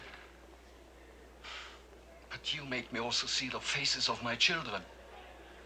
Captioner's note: sighs